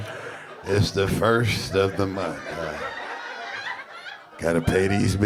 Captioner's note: laughs; audience laughing